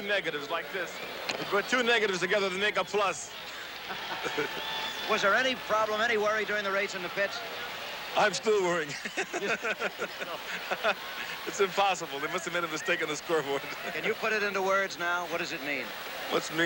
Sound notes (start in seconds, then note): 3.4 laughs; 10.4 laughs